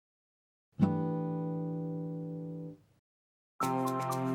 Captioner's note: chime sounds; upbeat music